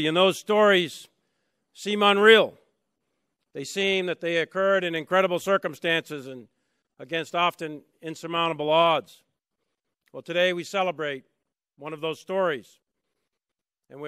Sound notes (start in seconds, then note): none